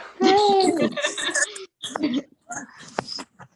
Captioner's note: laughter